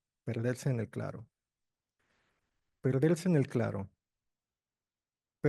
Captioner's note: speaking in foreign language